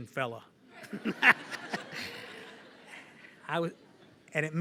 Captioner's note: laughter